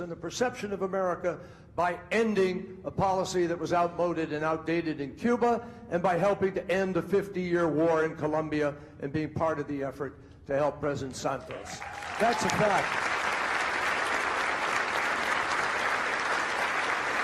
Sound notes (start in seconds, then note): 12.9 crowd applauding